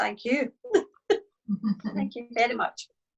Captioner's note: laughs